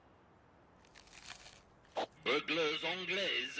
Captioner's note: crunches